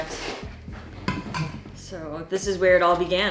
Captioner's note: thermos clanging